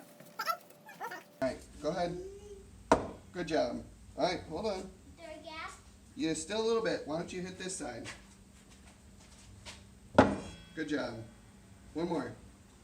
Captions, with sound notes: Go ahead. [hammer thumps] Good job. Alright hold on. Why dont you hit this side? [thump] Good job. One more.